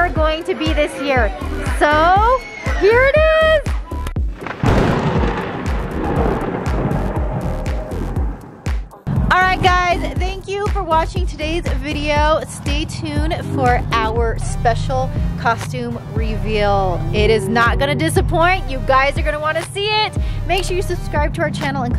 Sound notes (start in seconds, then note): 4.2 thunder crackles